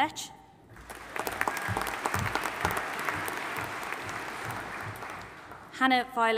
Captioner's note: audience applauding and cheering